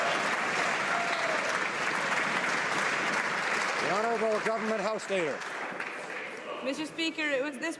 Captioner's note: some Applause